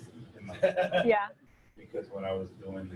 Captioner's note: audience member laughs